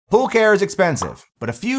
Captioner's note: graphics popping